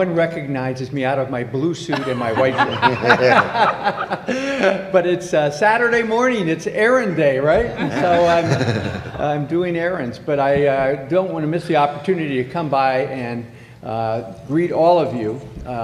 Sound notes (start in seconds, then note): 7.6 laughter